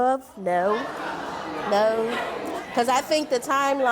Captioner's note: audience chatter